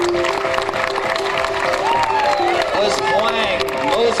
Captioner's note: cheering